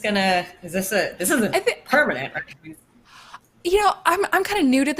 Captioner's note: speaking faintly